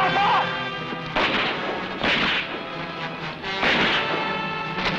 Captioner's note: gunshots blasting